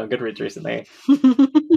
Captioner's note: laughs